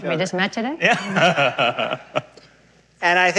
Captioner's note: laughs